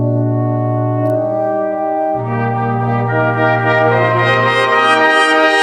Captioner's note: none